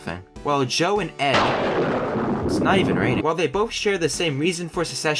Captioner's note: thunder